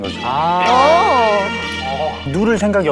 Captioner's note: airhorn sound